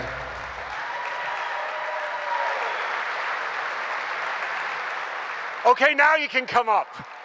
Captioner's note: cheers and applause